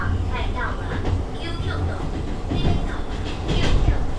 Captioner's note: Taiwanese